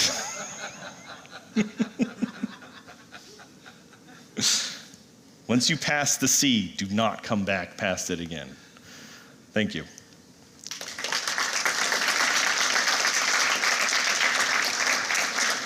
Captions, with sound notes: Once you pass the C, do not come back past it again. Thank you. [APPLAUSE]